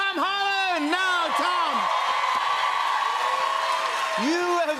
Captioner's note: cheers and applause